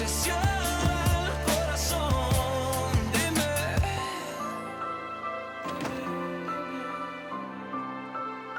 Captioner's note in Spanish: Sonido al cerrar la puerta